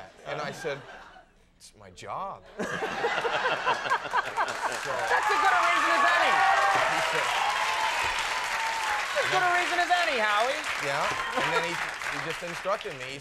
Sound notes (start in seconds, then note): 2.6 audience laughing; 6.4 audience applauding